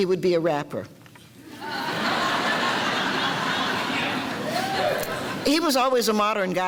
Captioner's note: audience laughter